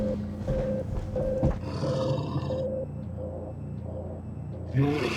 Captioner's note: creature growls